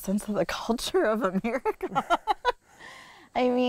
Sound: laughs

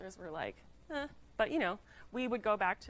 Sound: makes dismissive noise

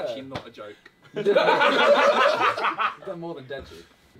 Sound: all laughing

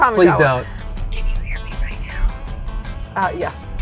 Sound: whispering

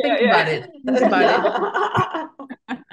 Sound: everybody laughing

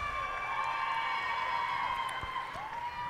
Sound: cheers and applause

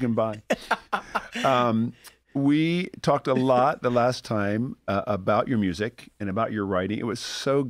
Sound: laughter

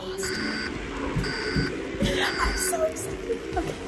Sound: beeping

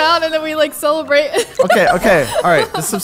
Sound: laughs

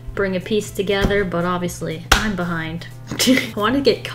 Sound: laughs

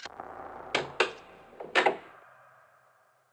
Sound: doors opens

